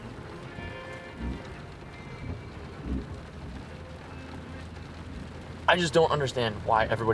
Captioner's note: rain pattering; midtempo music